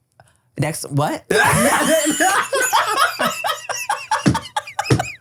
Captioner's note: everybody laughs